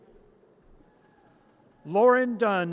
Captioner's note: audience cheers